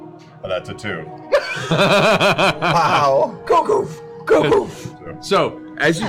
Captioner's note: heavy footsteps